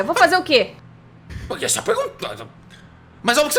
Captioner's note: stutters